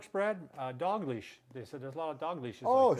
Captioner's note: tapping